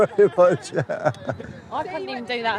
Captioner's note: laughter